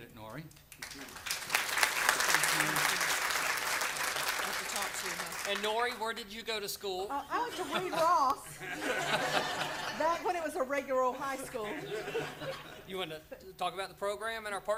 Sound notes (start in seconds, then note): 4.1 applause